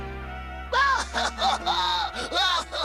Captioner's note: cries